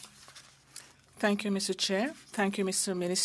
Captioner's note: speaking French